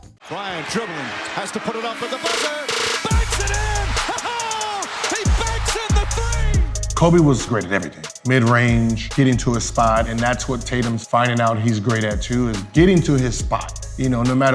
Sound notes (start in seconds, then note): 2.0 machine buzzing; 3.9 chuckles